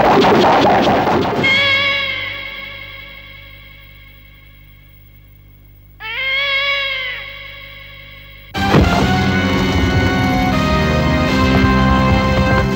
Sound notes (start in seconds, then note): 1.4 cat meows; 6.0 cat meows